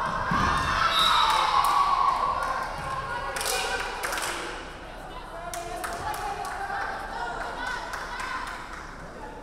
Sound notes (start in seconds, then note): 0.0 crowd cheering; 0.8 referee whistling